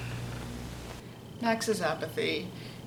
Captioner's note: Static